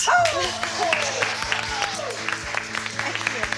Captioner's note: all applauding